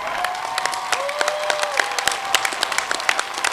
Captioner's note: applause